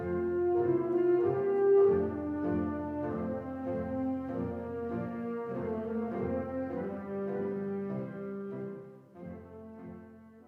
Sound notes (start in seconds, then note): none